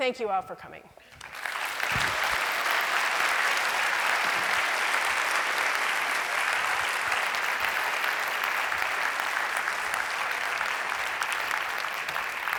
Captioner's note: applause